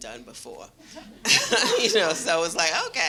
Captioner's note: laughter